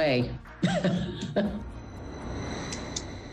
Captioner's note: chuckles